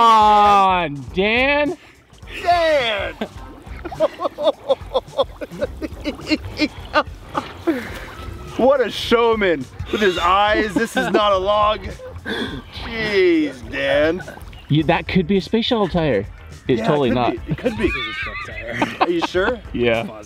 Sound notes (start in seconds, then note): 3.6 laughing